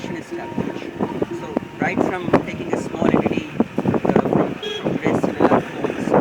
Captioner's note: car horn